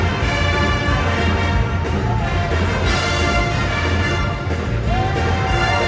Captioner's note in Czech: Potlesk